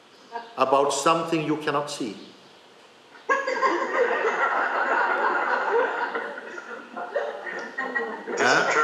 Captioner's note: laughter